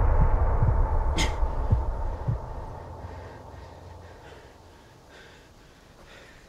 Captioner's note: dramatic music; birds chirping; Ben gasping